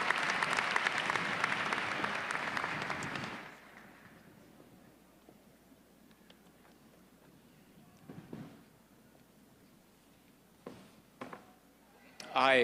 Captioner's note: applause